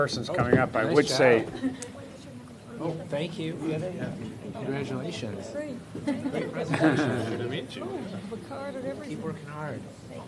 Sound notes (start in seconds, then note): 2.5 collective chatter